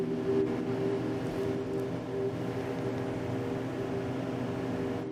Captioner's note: electronic humming